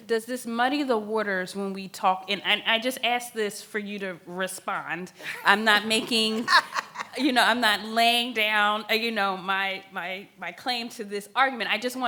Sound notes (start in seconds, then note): 5.2 laughs